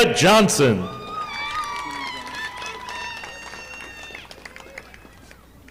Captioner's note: audience applauding